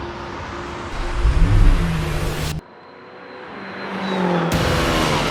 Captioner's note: car engine revving